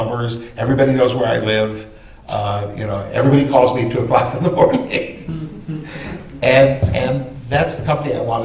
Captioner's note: laughter